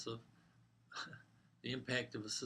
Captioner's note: laugh